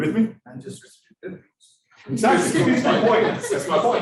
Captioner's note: students laughing